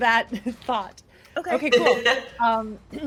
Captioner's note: laughs